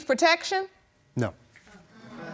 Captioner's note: audience murmuring